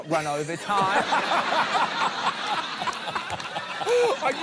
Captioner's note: laughs; laughter